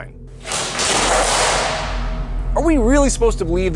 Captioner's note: loud bang